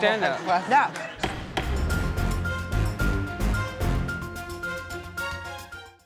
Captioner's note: gavel banging; dramatic music